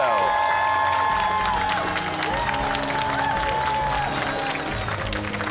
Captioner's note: cheers and applause